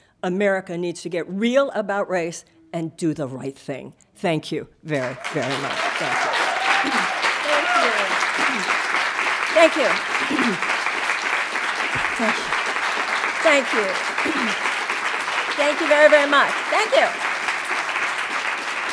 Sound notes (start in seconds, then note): 6.1 audience applauding